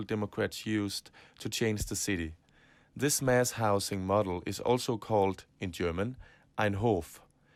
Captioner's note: in german